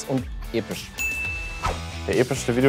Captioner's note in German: Klingeln